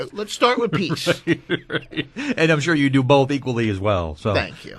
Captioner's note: laughs